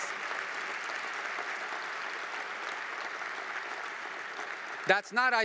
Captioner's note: applause